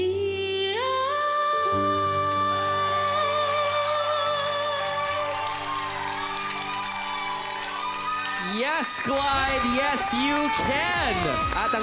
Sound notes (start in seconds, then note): 4.5 audience cheers